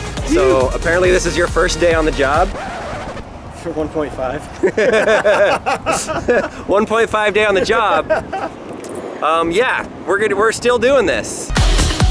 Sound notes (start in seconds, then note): 2.0 record scratch; 4.5 both laughing; 11.5 bright music